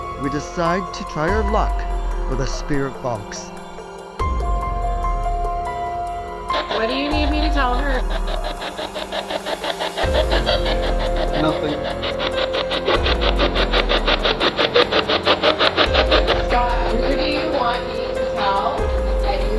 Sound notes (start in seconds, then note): 3.7 suspenseful dramatic music; 8.3 electronic static hissing; 12.1 electronic static hissing